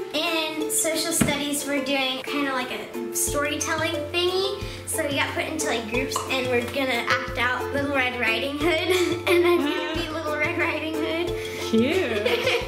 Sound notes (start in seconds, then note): 9.1 giggle; 11.8 giggle